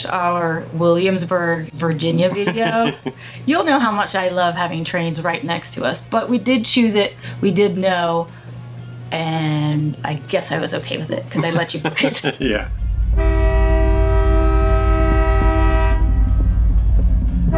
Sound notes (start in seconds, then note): 2.1 laughing; 13.0 trains honking